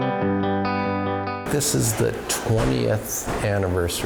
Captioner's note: atmosphere humming